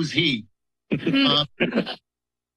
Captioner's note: laughter